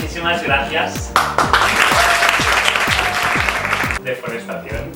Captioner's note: applause